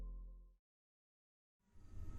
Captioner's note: silence